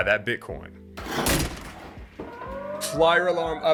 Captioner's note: sirens wailing